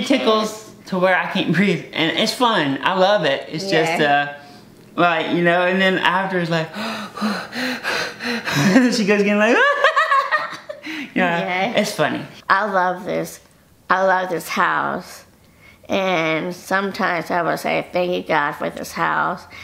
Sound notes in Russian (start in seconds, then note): 6.7 тяжело дышит